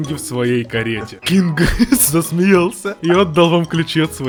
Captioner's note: King laughed